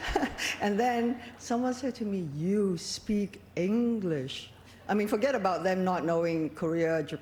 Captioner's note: laughter